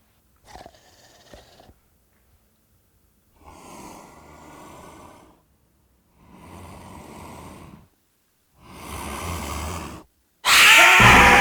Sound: mummy growling; mummy scream

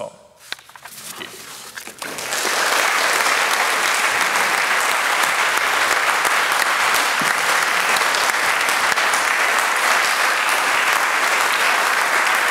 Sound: applause

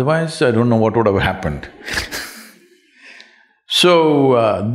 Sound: laughs

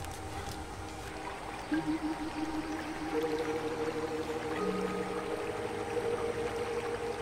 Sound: pensive music; river babbling

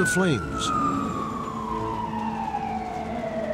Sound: sirens

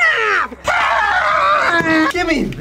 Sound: screams

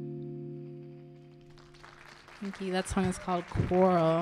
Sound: audience applauding

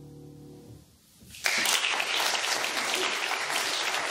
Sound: audience applauds

